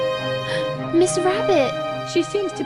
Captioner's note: gasp!